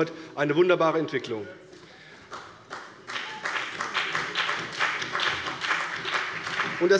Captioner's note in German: Beifall bei der CDU und dem BÜNDNIS 90/DIE GRÜNEN